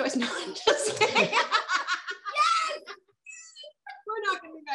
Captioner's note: laughing